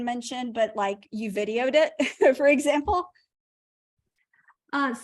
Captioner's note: laughter